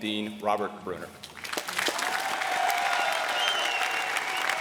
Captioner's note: applause